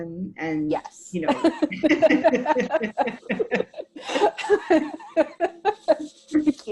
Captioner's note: laughs